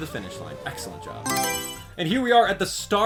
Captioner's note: Mario Selection Sound